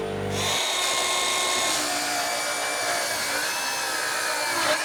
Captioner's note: grinder whizzing